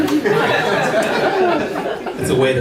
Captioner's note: laughter